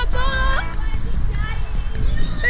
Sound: playground background noise

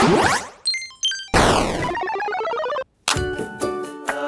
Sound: multiple gun shots; retro arcade sound; cheerful music plays

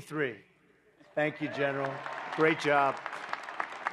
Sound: applause

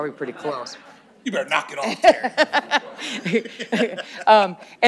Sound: laughter

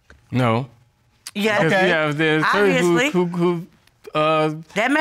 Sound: stammering

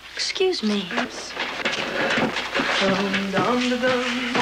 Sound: buddy humming wedding song

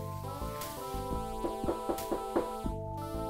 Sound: someone knocks on the front door

